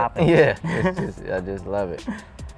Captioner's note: laughs